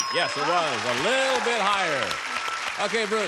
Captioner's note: ding